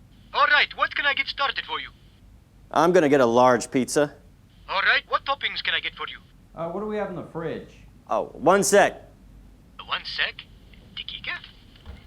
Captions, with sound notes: (phone) Alright, what can I get started for you? I'm gonna get a large pizza. (phone) Alright, what toppings can I get for you? - What do we have in the fridge? One sec! (phone) One sec? (guessing in Arabic)